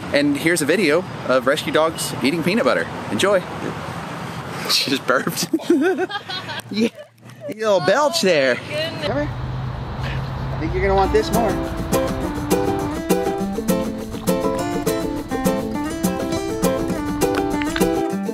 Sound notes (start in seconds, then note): 5.3 laughs; 13.4 happy upbeat music